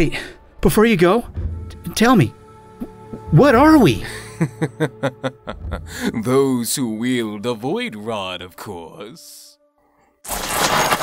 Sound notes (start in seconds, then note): 5.1 voice receding; 10.3 magic crackling